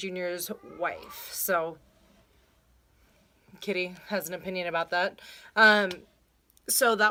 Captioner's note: cat meows in the background